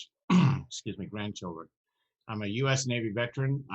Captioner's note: clears throat